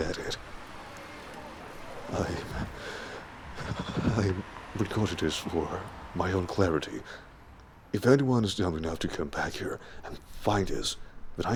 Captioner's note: shakily sighs